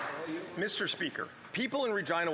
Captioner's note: applause